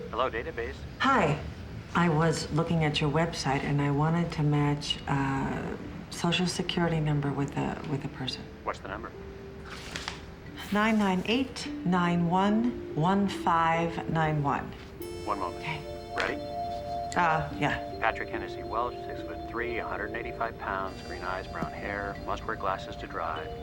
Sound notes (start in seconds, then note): 8.1 rustling